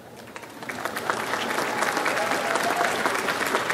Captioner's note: audience applauds